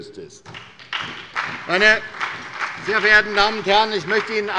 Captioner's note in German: Beifall bei der SPD